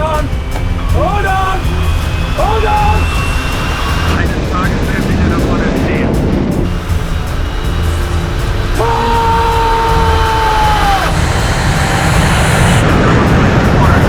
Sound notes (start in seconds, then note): 4.3 speaking German; 13.0 speaking German